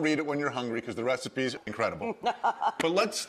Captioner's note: Rachael laughing